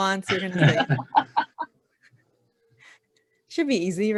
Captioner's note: laughing